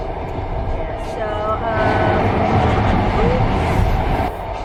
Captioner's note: another train goes